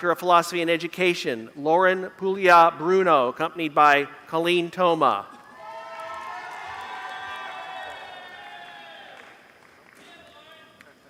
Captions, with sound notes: Doctor of Philosophy in Education. (Applause)